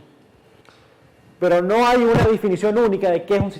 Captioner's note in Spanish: Micrófono cruje